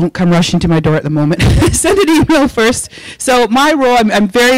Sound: laughing

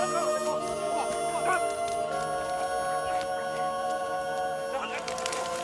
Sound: grunting

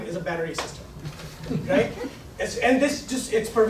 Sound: laughing

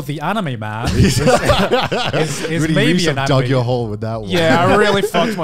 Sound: laughing

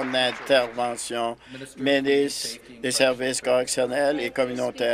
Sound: applause

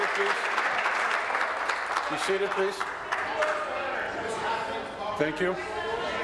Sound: applause

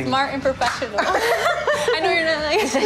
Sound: laughs

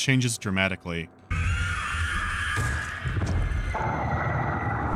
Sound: loud shriek; monstrous snarls

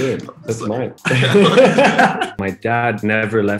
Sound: laughing

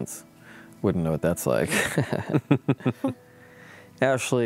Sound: laughs

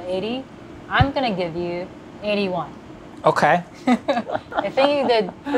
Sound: laughs

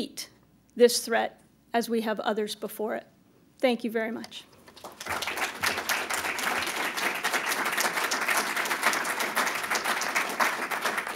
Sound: applause

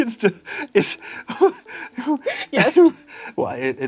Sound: labored laughter

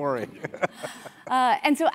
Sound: laugh

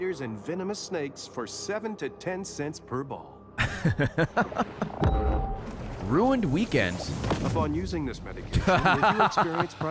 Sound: laughs

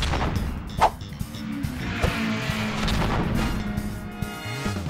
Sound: funk music; race cars vroom

